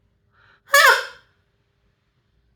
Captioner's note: very loud squeak